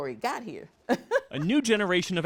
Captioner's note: laughter